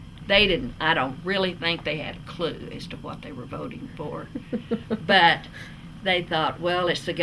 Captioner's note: laughter